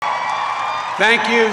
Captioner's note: applause